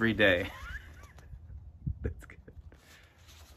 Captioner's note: laughs